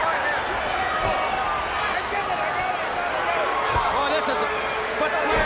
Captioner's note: crowd chatter